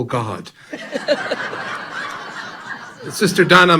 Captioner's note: audience laughing loudly